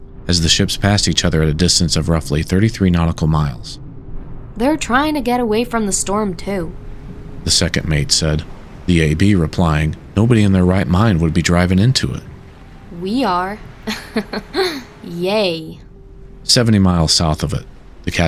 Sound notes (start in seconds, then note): 13.8 laughter